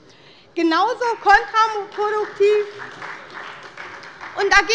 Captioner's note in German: Beifall bei der SPD